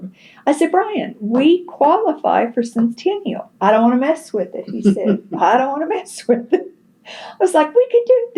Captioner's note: laughter